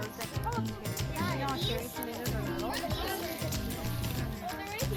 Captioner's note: children talking